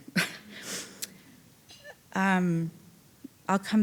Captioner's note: chuckling